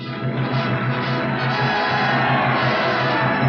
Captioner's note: applauding